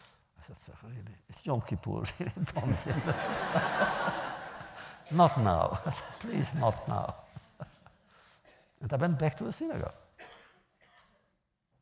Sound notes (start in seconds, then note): 2.3 laughter